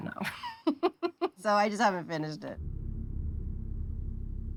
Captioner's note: laughs